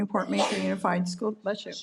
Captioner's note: participant sneezes